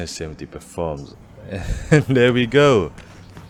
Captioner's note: chuckles